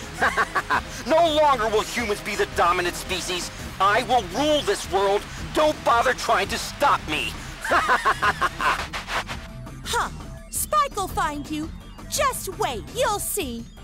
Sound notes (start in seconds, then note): 0.1 laughter; 7.6 laughter